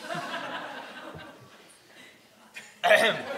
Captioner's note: audience laughing